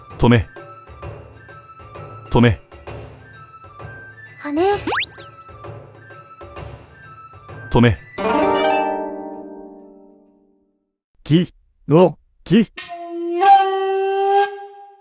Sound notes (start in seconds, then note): 4.8 upward brushstroke